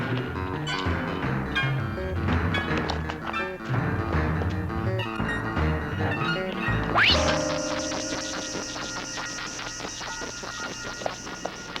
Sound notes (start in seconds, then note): 6.9 zinging